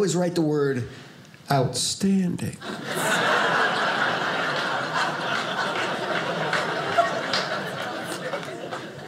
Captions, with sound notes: write the word "outstanding". (audience laughing)